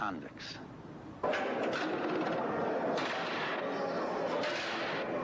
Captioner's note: cell door clanging